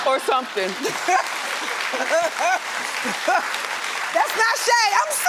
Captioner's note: laughing